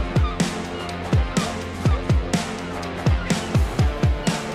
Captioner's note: laugh